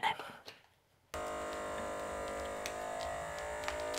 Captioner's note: machine noise